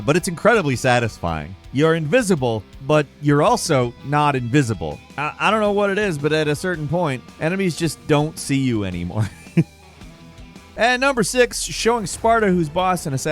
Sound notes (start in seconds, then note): 9.1 laughs